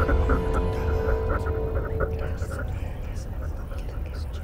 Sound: space sounds fade; Celtic voices fade

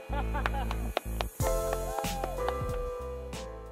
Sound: clapping

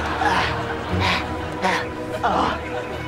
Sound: gasping

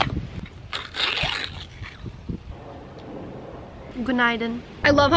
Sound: food packaging ripping; speaking in foreign language

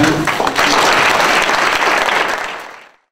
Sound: applause

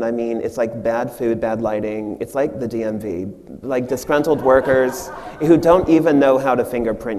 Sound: audience laughs

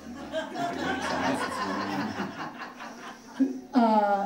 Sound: audience laughing

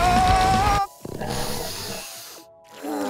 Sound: groaning; sniffing

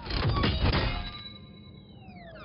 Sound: metal clangs

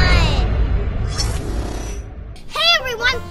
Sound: digital whoosh

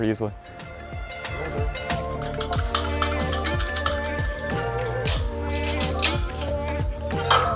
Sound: upbeat music; tools rattle

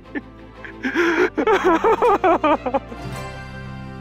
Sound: sobbing

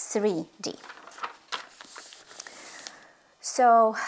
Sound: page flipping

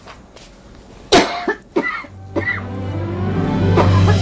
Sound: coughing

